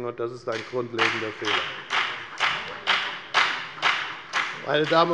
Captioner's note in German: Beifall bei der FDP